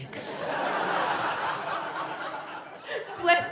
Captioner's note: audience laughs